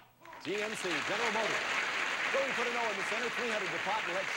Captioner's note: audience applauding